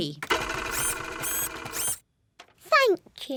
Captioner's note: printer whirring